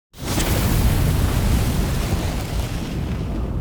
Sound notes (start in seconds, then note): 0.2 flaming sound